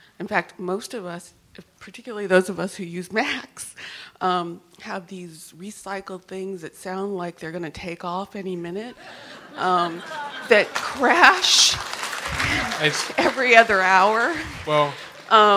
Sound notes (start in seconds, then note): 9.0 laughter; 10.0 applause